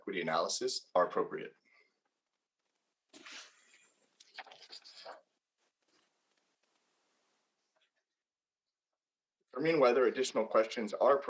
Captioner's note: audio cuts out